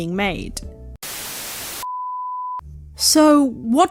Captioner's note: static